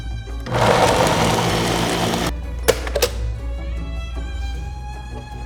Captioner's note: blender whirring